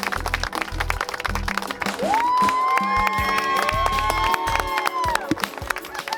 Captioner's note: applause; cheeering